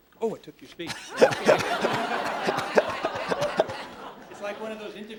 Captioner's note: laughter